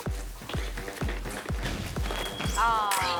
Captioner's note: stamping